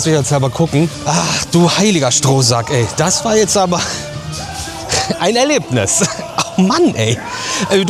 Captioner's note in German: gelächter